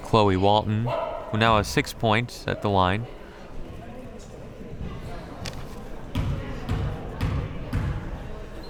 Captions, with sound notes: It's Chloe Walton, who now has six points, at the line. (crowd members talking)